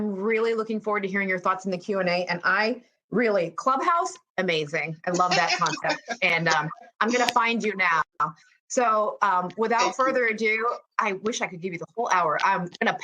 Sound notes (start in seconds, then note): 5.1 laughs